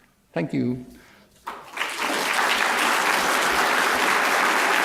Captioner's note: applause